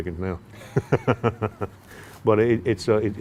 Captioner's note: laughing